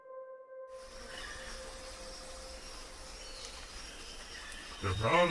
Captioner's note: birds chirping